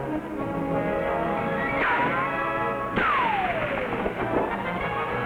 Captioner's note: guns firing